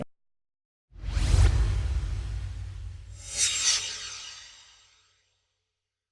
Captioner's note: swoosh